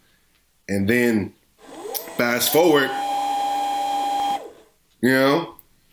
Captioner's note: VCR fast forward sound